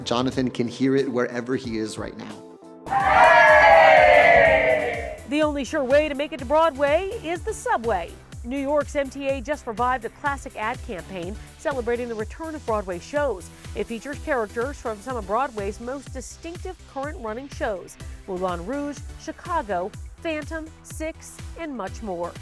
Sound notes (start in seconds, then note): 2.8 all cheering